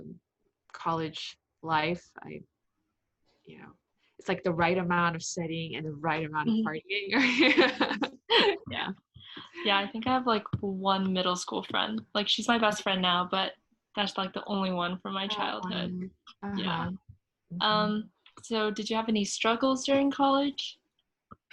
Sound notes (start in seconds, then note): 7.4 laughs